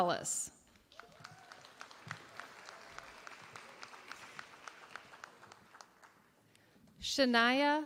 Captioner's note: applause